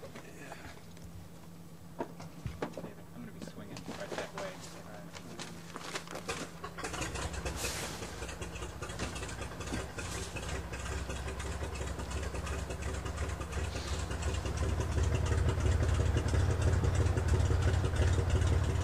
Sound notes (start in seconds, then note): 8.8 airplane propellers